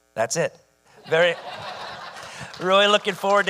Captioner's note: audience laughing